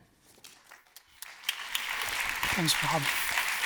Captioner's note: applause